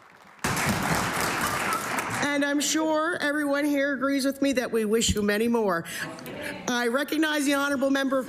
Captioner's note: cheering and Applause